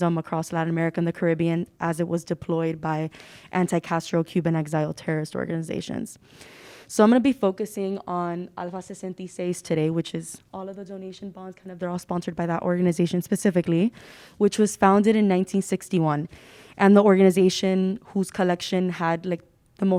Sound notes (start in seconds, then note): 8.5 speaking Spanish